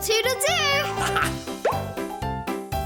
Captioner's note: laughter; upbeat music